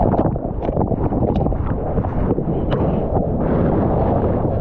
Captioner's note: wind